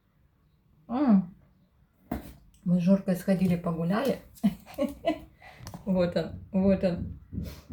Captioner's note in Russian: смех